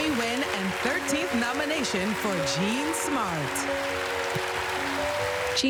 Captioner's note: applause